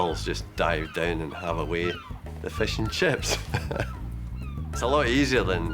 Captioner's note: laughs